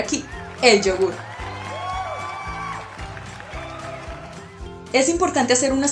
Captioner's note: Aplausses